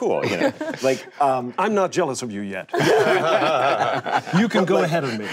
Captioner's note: group laughing